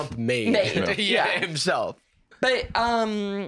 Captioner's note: laughing